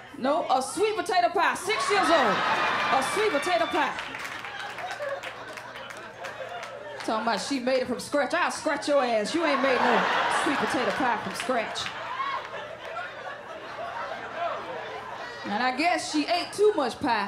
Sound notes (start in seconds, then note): 12.4 laughter